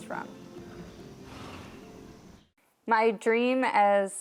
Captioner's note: horse sighs